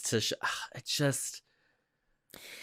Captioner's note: sigh